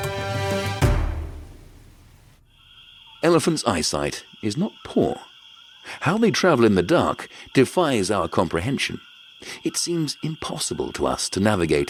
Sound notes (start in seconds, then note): 1.9 crickets chirping